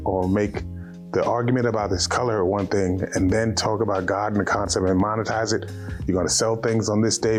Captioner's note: none